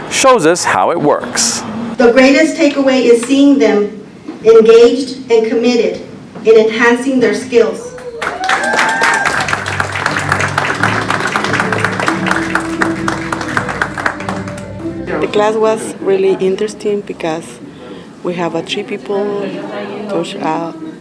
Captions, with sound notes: shows us how it works. - The greatest takeaway is seeing them engaged and committed in enhancing their skills. (crowd claps) (ceremonious music) - The class was really interesting because we have achieve people to practice talking